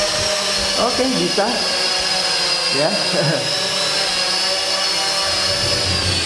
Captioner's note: chuckle